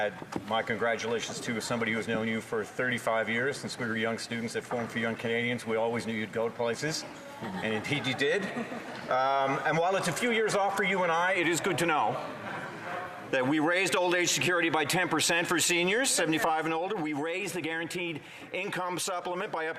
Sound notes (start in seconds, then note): 1.2 speaking French